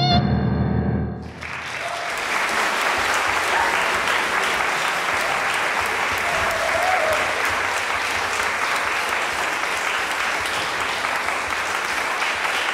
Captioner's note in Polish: oklaski